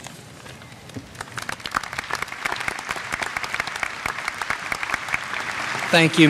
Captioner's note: applause